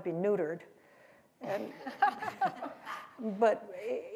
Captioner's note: laughter